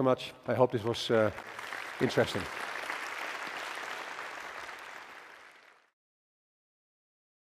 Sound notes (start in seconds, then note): 1.0 applause